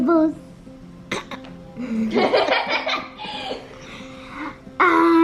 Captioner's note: giggles; laughs